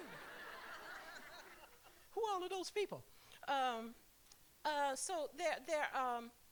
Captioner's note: laughter